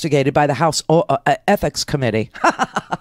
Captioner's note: chuckles